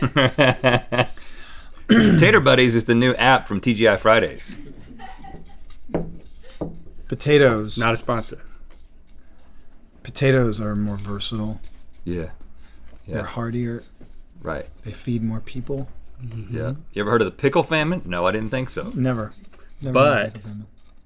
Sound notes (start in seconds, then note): 0.0 laughs; 4.5 laughing